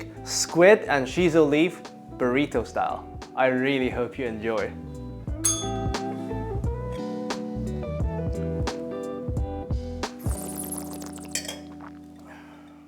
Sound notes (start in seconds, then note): 5.3 upbeat music; 5.4 bell rings; 10.3 slurps